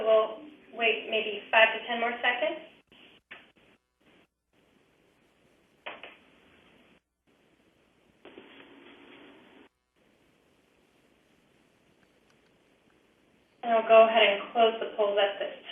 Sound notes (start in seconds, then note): 5.1 pause